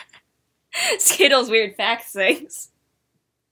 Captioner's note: laughs